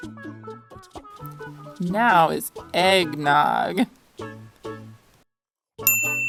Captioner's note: bell ding